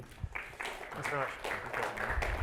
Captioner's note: applause